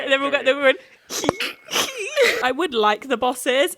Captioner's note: giggling